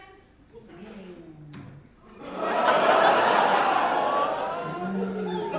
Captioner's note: audience reaction; big audience reaction